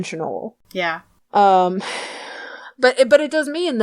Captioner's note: sighs